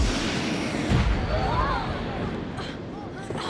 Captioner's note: thunder; screaming